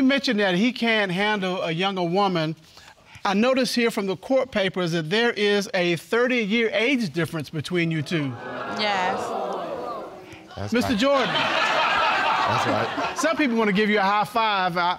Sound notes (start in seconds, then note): 10.8 audience laughing